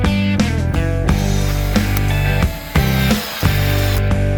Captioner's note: sawing sound